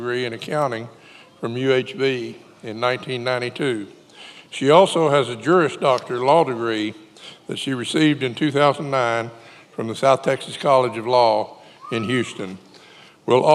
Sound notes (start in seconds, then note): none